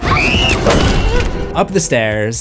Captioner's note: screams